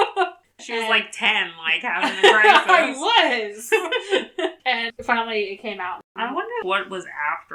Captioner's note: laughs; laughs